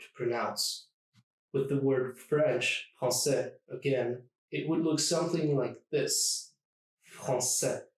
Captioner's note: français